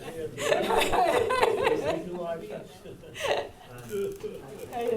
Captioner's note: audience laughing